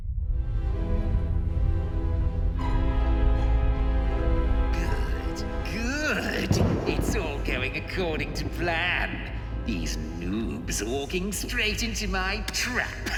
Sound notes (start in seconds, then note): 0.2 sinister music; 4.7 thunder rumbles; 12.9 laughs